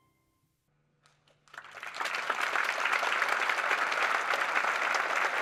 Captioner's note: applause